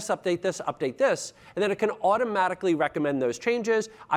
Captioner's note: none